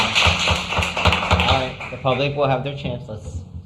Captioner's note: applause